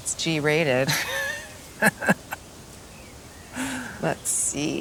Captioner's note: camera Man chuckling